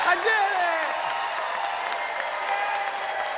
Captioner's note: crowd cheers